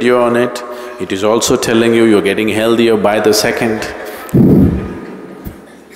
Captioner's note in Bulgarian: Всички се смеят